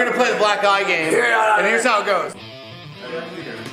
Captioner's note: Steve-O grunting; fast-paced rock music